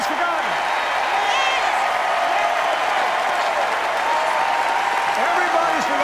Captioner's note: cheers, applause